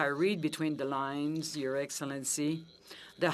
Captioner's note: speaking French